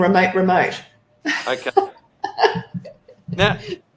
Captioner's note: laughs